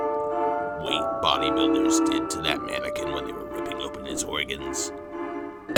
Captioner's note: coughs